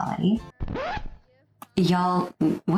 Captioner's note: record scratch